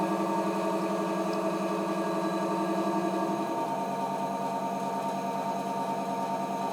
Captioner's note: wheel motor